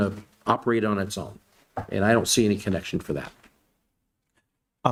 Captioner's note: none